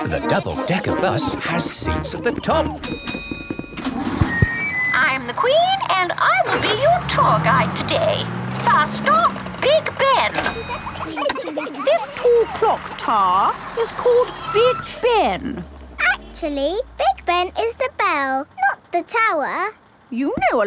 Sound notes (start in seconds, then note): 2.7 bell dings; 9.6 kids giggling